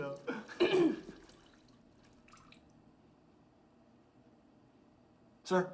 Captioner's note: O'Brien clears throat